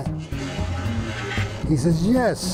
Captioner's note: plank creaking